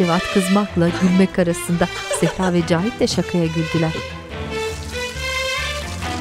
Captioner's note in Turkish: Gülme sesleri